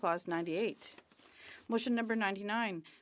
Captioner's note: speaking French